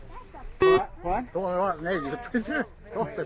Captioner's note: crowd chattering; beeping